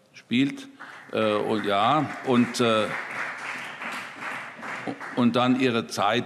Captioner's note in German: Beifall CDU, BÜNDNIS 90/DIE GRÜNEN und SPD